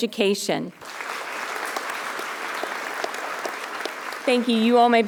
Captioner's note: audience applauding